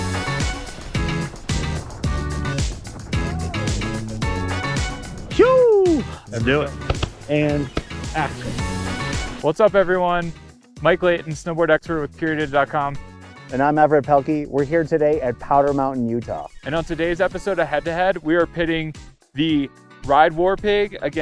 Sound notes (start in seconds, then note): 0.2 upbeat music plays; 6.8 claps like clapperboard